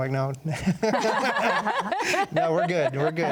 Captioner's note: panel laughs